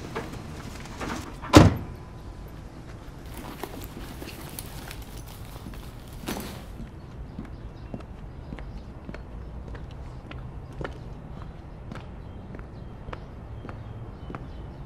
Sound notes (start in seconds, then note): 0.8 door slams; 2.5 footsteps sound